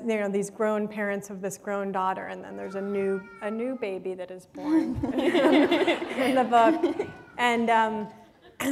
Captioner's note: laughter